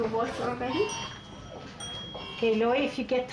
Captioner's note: elevator Bell Dings